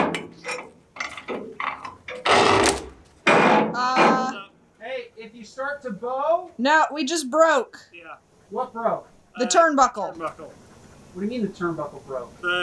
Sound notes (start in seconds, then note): 0.0 creaking turnbuckle; 2.0 crack and splinter